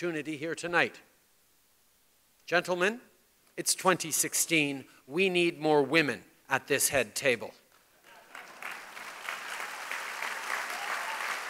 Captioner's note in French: Applaudissements